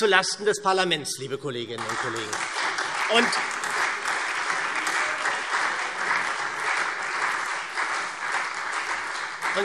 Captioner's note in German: Beifall SPD und Freie Demokraten